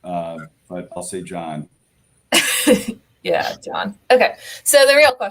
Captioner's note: laughter